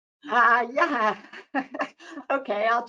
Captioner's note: laughs